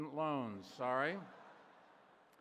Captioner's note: laughter